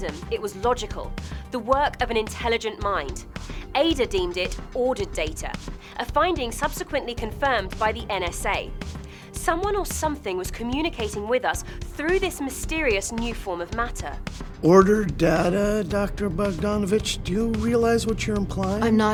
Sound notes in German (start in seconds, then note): 14.6 Voiceover